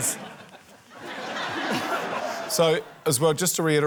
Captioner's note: laughter